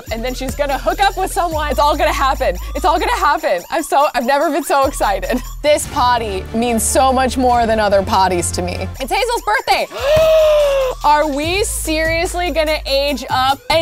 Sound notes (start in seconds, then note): 9.9 gasping